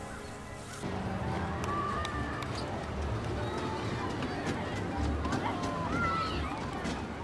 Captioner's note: bright playful music; children playing